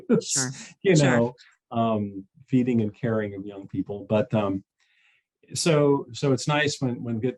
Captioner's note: chuckles